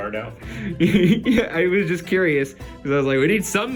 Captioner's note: chuckling